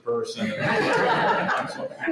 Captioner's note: laughter